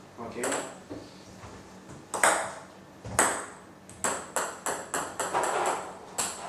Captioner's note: ball ping pong hitting